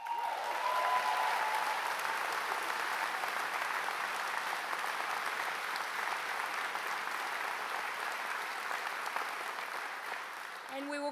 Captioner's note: applause